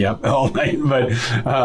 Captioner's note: laughs